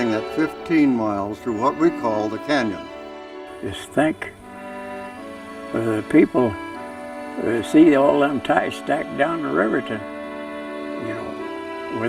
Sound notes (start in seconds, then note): 0.0 voiceover; 4.5 voiceover